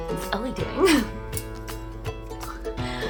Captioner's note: laughs